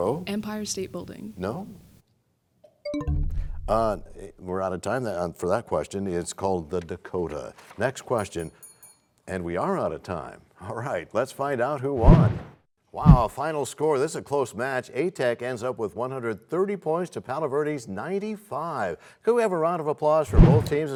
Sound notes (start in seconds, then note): 2.8 bell chimes, time expires